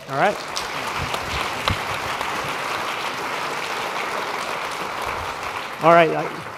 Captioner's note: applause